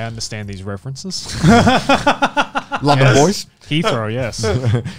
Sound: everyone laughs

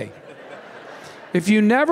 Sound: laughing

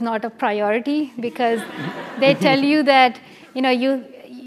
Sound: laugh

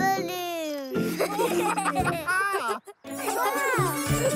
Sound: giggling

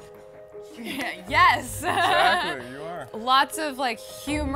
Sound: laughs

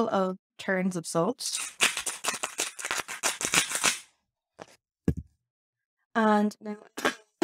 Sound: salt dispenser scratchy sounds

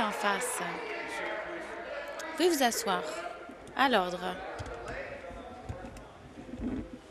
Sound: applause

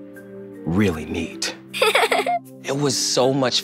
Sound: laughing

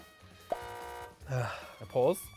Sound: buzzes

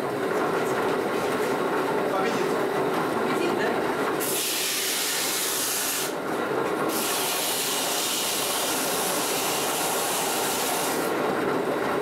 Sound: whir when polishing the stone

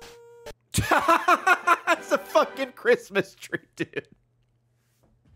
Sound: laughs

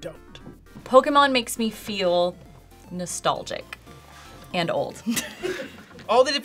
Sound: laughs

